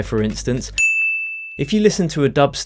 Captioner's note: bell chiming